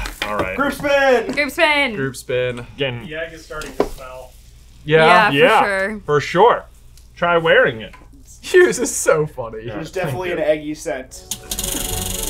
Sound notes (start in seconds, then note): 9.7 laughs